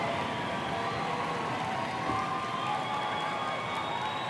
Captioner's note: applause